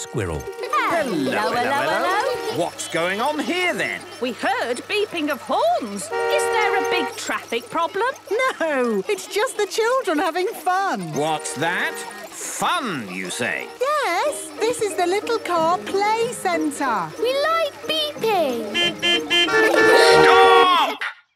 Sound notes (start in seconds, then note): 18.2 horns beeping